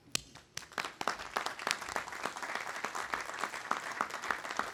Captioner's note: audience applauding